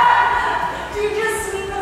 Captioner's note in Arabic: يضحك الجميع